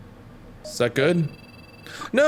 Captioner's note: computer Beeping